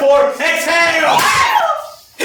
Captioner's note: HOSTESS screams